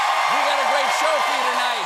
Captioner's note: cheers and applause